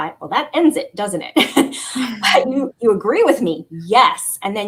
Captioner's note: laughter